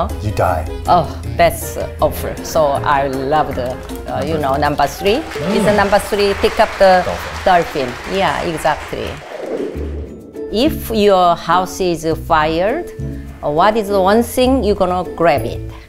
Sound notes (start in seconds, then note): 3.3 audience claps